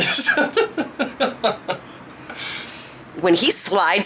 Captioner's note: laughing